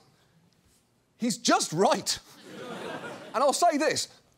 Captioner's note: quiet laughter